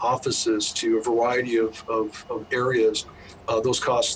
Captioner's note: bus humming